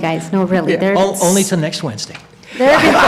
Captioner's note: laughter